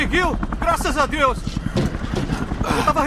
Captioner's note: grunting